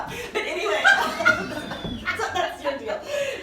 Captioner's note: laughing